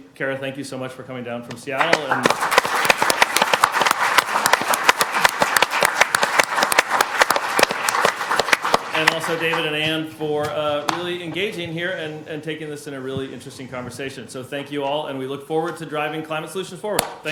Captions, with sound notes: Kara, thank you so much for coming down from Seattle. (people applauding) And also David and Ann for really engaging here and taking this in a really interesting conversation. So thank you all, and we look forward to driving climate solutions forward.